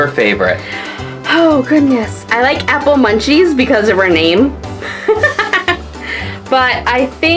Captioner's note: laughs